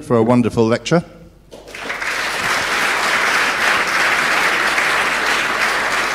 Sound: applause

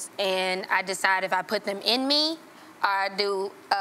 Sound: none

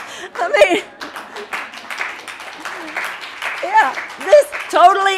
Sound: audience laughing; audience applauding

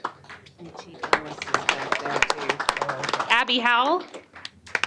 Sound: applause

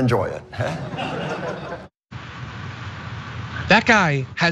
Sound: laugh

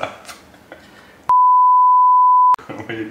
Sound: beep

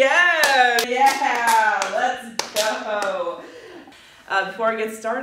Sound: halfhearted claps

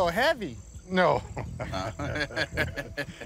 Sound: laughs

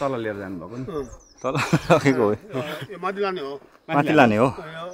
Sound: chuckles

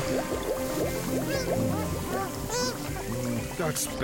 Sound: Bongalala chattering

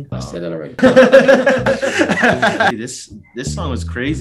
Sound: both laughing

